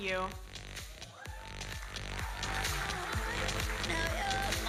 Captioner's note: audience cheering and applauding